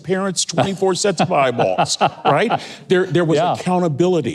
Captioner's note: laughing